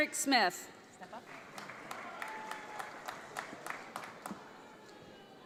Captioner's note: audience applauds